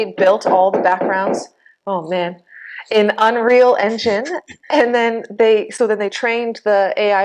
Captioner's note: hammering noises